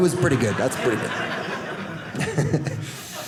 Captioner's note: audience laughing